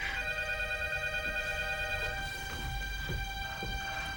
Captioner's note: phone ringing